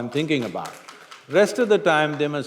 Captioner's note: applause